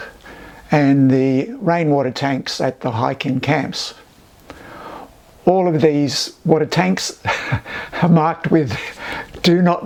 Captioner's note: laughs